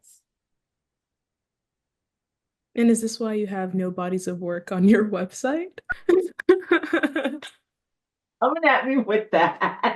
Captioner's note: laughs